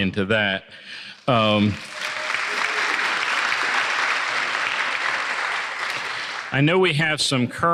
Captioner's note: applause